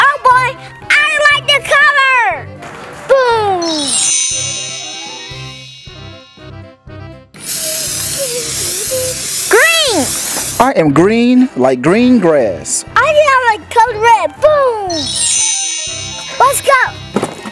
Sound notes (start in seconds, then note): 3.6 twinkling; 7.4 can spraying; 14.9 twinkling